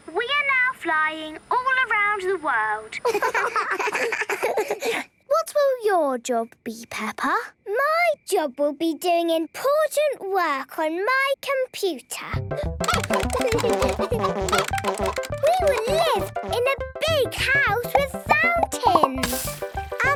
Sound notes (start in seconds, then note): 12.8 keyboard tapping; 12.8 computer game chickens clucking